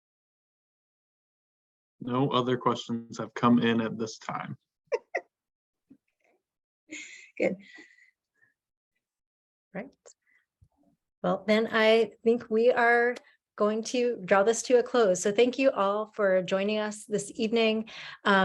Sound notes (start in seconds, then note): 4.9 group chuckling